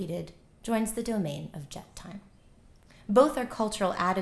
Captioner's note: non-english